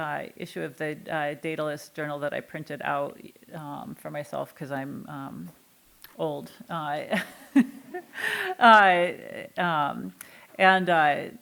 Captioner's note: giggling